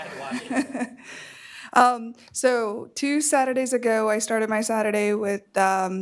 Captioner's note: laughter